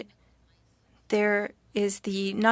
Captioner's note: speaking French